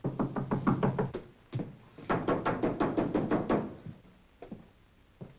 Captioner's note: knocking